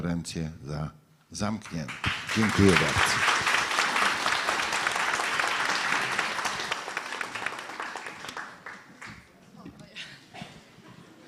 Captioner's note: applause